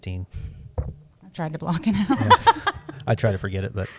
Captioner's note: laughs